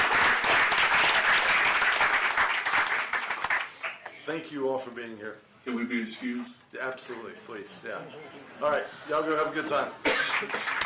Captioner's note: applause